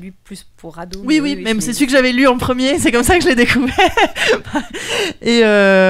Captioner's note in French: rires